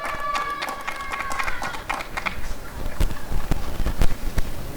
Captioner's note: applause and cheering